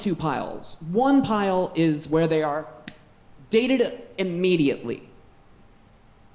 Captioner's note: snaps